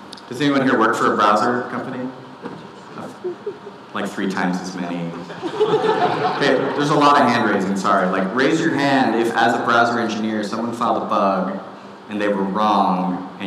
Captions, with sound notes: Does anyone here work for a browser company? Like three times as many. (audience laughing) There's a lot of hand raising, sorry. Like raise your hand if, as a browser engineer, someone found a bug, and they were wrong,